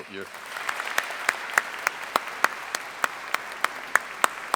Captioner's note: audience applauding